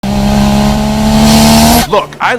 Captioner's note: engine accelerating